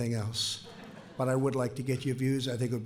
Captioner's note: laughter